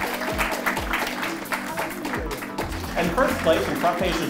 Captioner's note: audience clapping